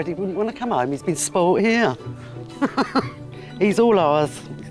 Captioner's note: laughs